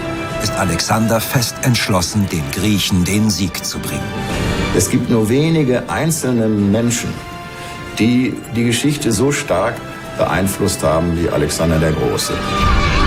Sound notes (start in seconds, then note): 4.6 in German; 12.8 horse whinnying